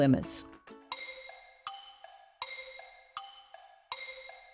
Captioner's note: clock ticking